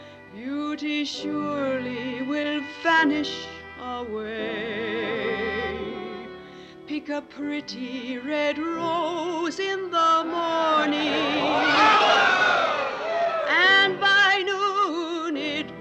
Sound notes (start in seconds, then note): 10.3 hooting and cheers